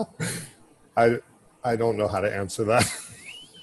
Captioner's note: laughing